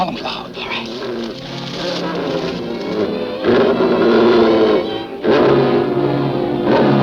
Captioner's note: devil growling